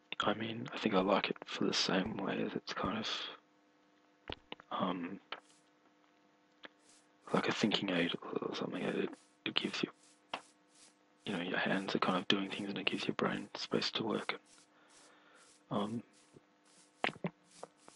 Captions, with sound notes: I mean I think I like it for the same way as it's kind of Um Like a thinking aid or something. It gives you You know your hands are kind of doing things and it gives your brain space to work Um [swallowing]